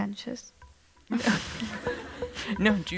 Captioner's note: laughter